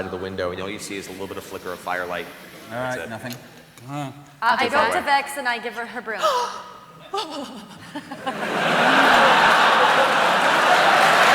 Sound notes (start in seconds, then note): 6.2 relieved noises; 8.4 cheering